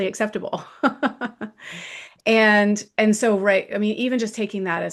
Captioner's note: laughs